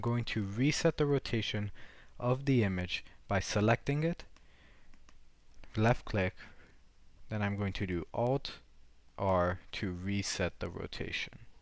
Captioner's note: left click